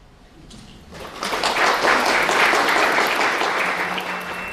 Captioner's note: applause; drone-like music